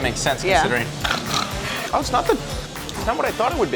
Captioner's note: snorts